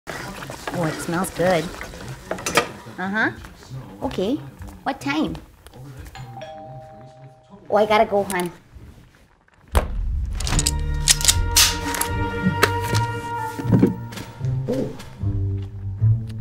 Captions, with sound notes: Boy, it smells good. Uh-huh. OK. What time? [DOORBELL RINGS] Oh, I got to go, hun. [SUSPENSEFUL MUSIC] Oh.